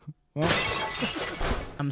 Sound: glass shattering

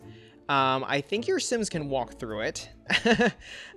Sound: laughs

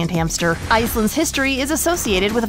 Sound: air whooshing

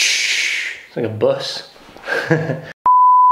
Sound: laughter

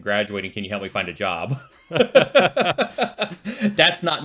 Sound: chuckling

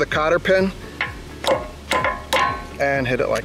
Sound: metal clinking

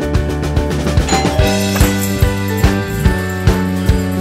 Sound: doorbell sound

